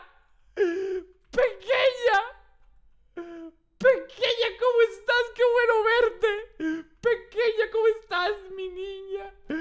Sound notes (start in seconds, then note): 0.4 gasping; 2.8 gasps